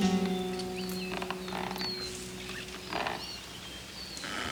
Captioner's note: rope creaks